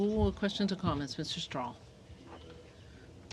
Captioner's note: speaking in french